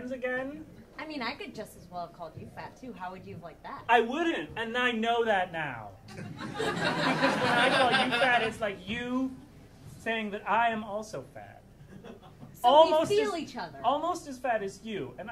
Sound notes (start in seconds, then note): 6.1 audience laughing